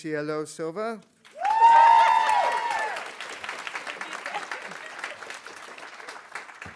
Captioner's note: audience applauding; audience cheering